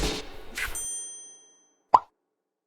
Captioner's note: bell dinging; bubble popping